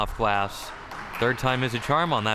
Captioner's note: crowd cheering